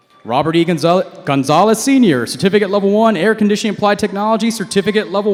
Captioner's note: none